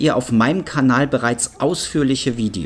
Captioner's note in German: none